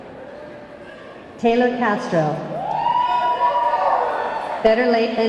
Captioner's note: audience clamoring